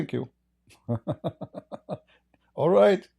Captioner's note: Ketawa